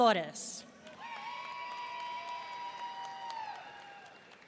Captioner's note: audience cheering